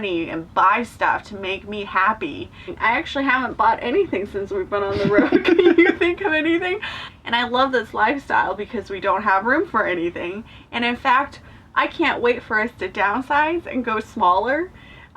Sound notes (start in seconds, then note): 4.8 chuckling